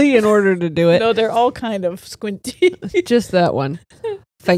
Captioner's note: laughs